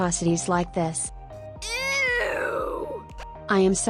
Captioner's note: Bratz movie "EWWW" sound effect